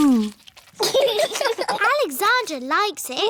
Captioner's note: laughter